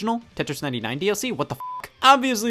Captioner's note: beep